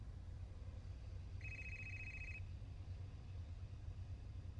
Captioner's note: phone ringing